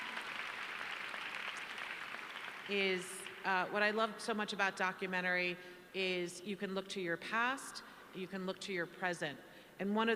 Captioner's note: applause